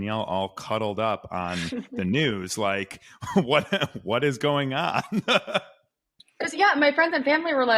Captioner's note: laughs